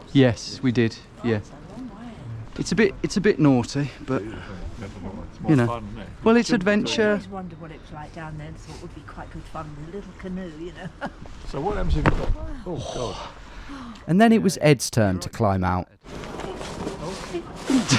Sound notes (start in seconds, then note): 11.0 chuckles; 12.8 gasps